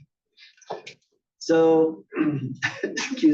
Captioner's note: cough